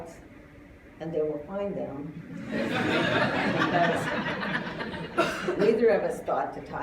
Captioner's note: laughter